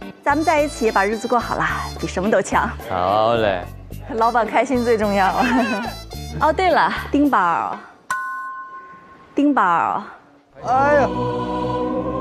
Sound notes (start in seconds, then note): 8.1 ding